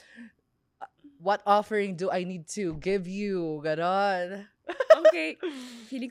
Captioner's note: laughs